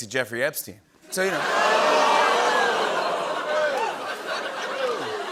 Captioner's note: audience "Oohs"; laughing